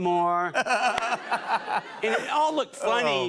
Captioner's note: laughter